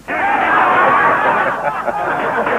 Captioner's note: clamoring